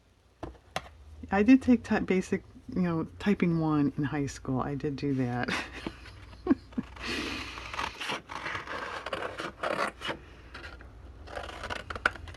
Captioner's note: laughs